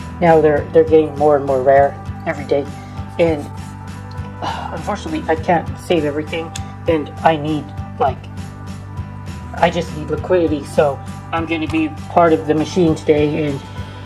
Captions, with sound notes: now they're they're getting more and more rare every day... and... (sighs), unfortunately, I can't save everything, and I need like... I just need liquidity so I'm going to be part of the machine today, and...